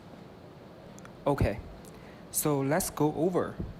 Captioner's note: voiceover